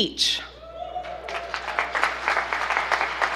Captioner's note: applause